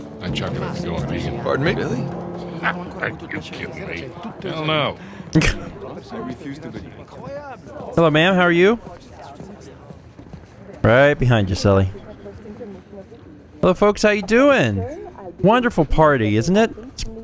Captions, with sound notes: [laughs] Hello, ma'am. How are you? Right behind you, Sully. Hello, folks. How ya doin'? Wonderful party, isn't it?